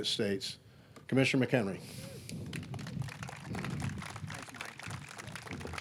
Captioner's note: audience clapping